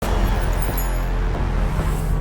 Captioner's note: glass tinkling